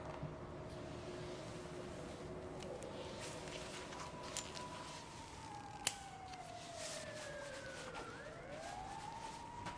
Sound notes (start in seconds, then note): 6.0 sirens wailing